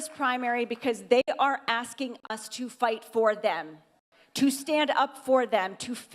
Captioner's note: applause